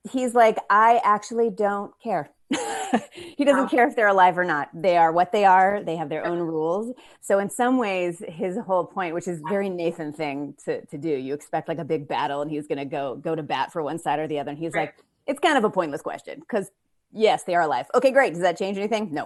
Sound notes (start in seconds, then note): 2.5 chuckles